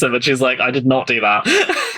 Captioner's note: laughs